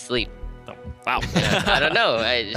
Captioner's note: laughing